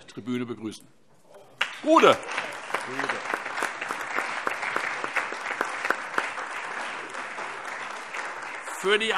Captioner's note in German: Beifall